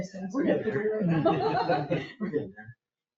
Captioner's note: people chuckle